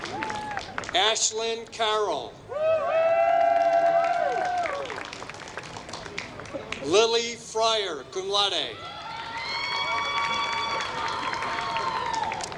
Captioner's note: applause